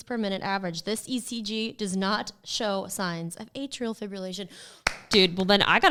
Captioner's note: claps